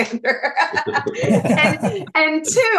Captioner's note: all laughing